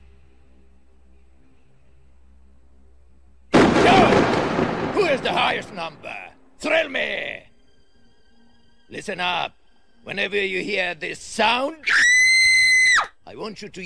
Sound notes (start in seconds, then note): 11.8 woman screaming